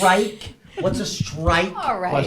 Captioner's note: laughs